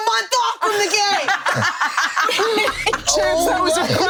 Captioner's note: laughs